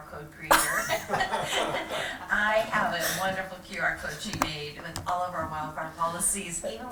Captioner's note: laughter